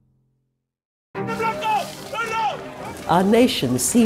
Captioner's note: voices yelling